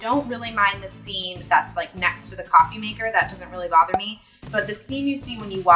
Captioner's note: cork pop